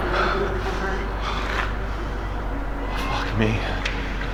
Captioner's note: Paul breathing heavily